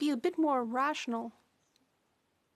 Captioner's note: speaking French